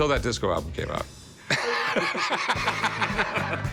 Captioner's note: laughing